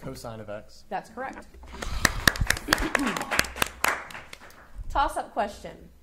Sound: audience applauding

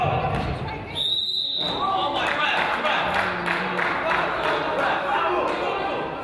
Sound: whistle blows

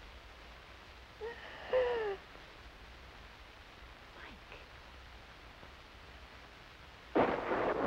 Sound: gasps; thunder

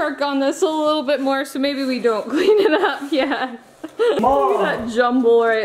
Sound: laughing

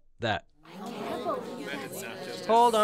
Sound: audience murmuring

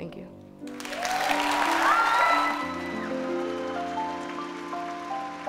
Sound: audience cheering and clapping

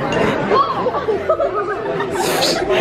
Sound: giggles

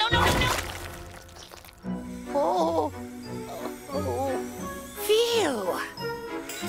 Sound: intense music; Cozmo gasps

